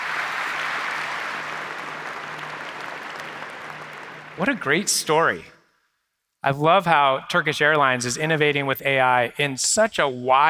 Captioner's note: applause